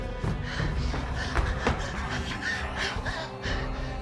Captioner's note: Claire panting